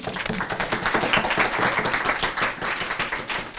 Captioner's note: applause